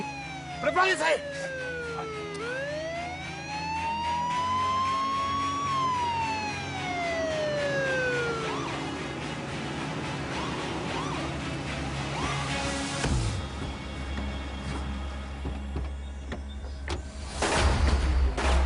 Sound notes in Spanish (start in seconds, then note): 8.0 Sirena intermitente; 17.9 Disparos